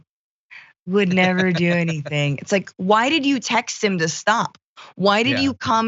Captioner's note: laugh